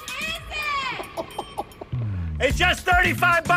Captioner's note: chuckles